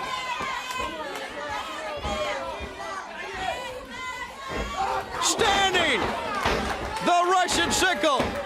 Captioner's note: crowd chatter